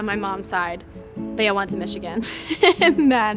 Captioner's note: laughs